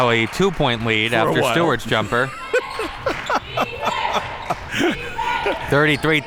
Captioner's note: laughing